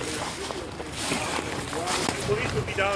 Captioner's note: yüksek ses çıkaran ayak sesleri